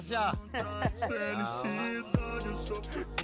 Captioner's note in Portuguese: risada